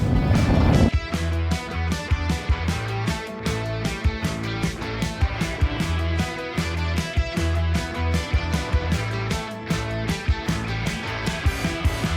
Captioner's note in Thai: ปรบมือ